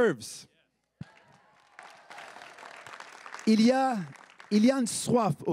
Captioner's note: everyone applauding